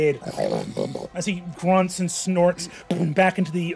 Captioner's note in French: grogne